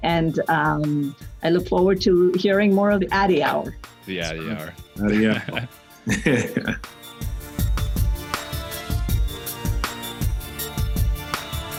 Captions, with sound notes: and I look forward to hearing more of the Addy Hour. - The Addy Hour. - The Addy Hour (laughs) (upbeat music)